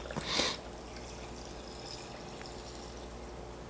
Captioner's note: blows nose